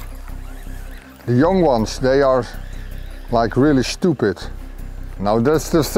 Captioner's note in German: Möwen